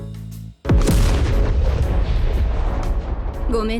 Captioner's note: bang